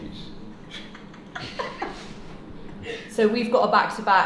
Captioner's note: laugh